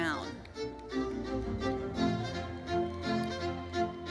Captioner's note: audience applauding; lively classical music continues